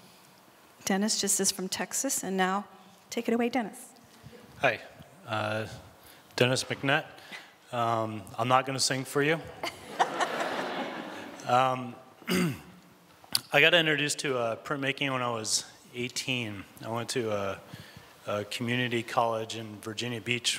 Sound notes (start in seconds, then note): 9.6 laughter